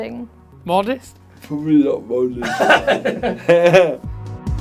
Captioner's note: laughter